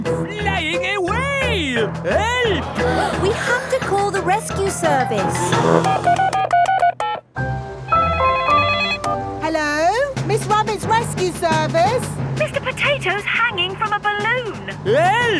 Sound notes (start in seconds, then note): 5.3 beeping; 8.1 phone ringing